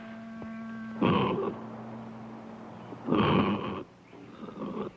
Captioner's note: guttural grunting